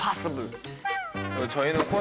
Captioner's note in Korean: 힝힝